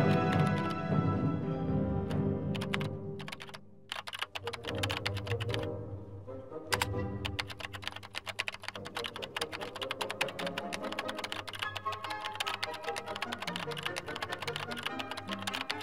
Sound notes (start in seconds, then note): 0.0 grand instrumental music; 3.5 computer typing